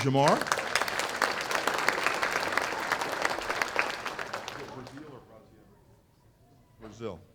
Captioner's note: applause